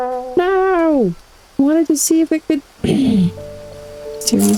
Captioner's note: frustrated sound